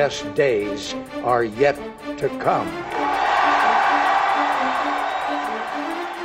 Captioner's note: cheers